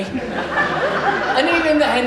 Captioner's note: audience Laughs